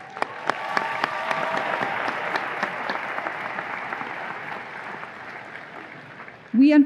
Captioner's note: audience applause and cheers